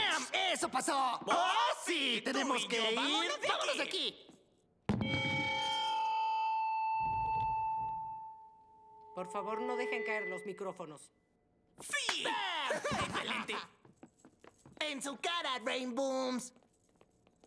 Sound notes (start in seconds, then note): 6.6 feedback